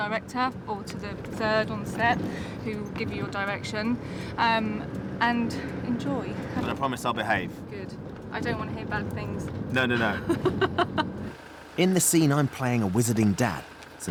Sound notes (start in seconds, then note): 9.8 laughs